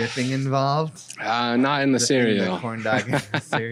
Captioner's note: laughs